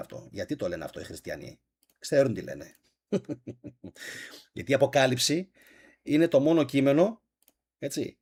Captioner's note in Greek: γέλια